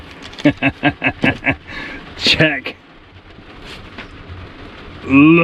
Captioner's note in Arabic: يضحك